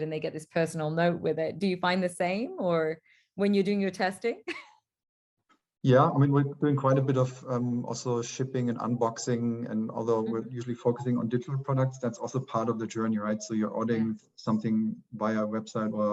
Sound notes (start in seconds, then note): 4.9 light laughter